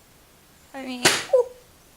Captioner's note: object falls